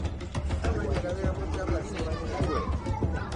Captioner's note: people chattering